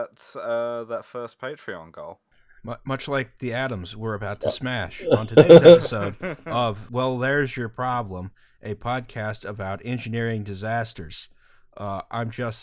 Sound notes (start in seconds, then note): 5.0 laughter